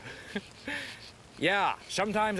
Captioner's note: Noah chuckles